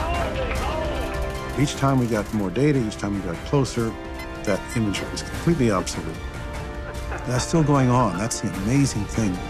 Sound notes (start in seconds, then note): 0.0 group cheers and applauds